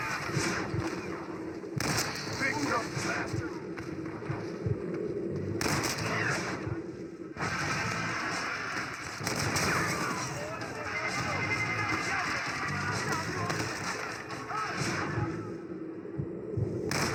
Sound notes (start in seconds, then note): 5.5 sounds of cold blood and shoots; 10.2 Sounds of dls and cries of colossus